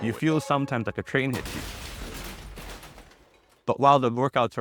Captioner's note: train crashes